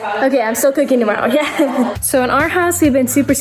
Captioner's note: laughs